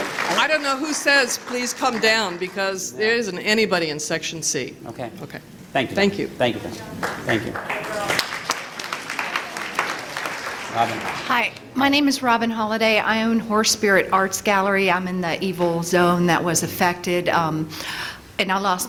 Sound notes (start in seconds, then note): 6.9 applause